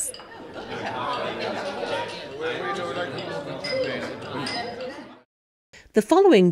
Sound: sounds of a Dinner Party

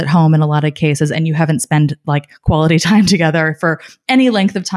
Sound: laughing

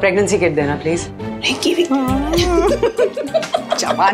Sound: both laughs

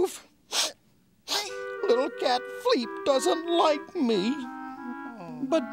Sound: sniffs

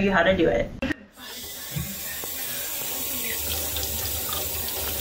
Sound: water spritzing

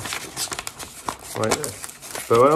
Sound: paper scrunching

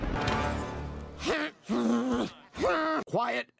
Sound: weird sinus noises

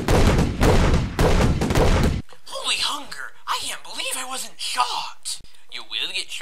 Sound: gunshots

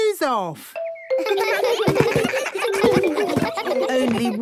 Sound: giggles

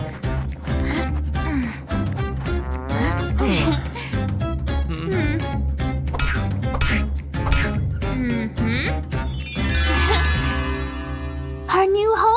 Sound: groans

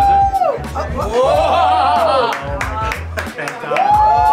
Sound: clapping

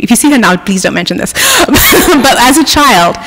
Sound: laughs

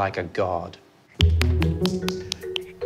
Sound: clapping

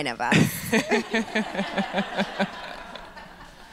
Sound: laughs

